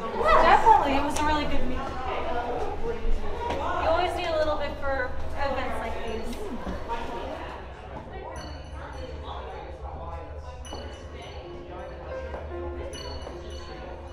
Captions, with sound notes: Definitely, it was a really good meal. You always need a little bit for events like these. [Chiming is heard]